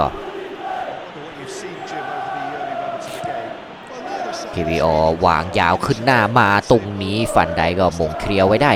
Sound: applause

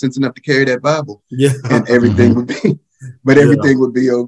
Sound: laughing

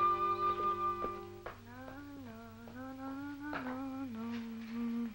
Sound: sister humming

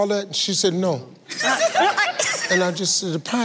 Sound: giggles

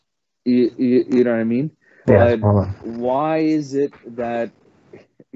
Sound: speaking foreign language

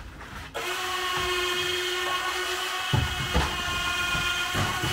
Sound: machine buzzing

